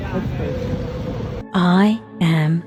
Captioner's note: city sounds; eerie voice